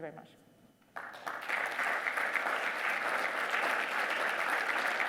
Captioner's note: audience applauding